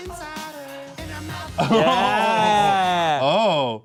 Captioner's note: both laughing